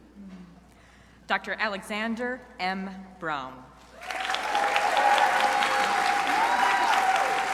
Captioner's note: crowd applauding